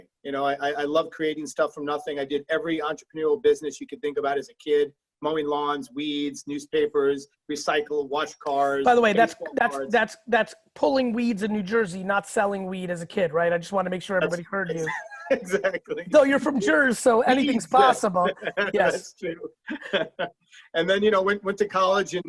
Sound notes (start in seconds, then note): 14.7 laughing; 19.5 laughing